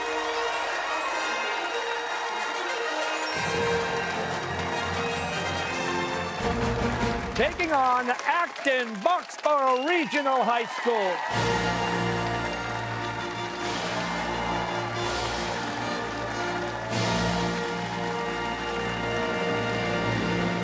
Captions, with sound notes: (cheers and applause) Taking on Acton-Boxborough Regional High School. (fanfare playing) (cheers and applause)